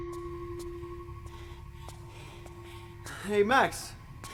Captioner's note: Phil panting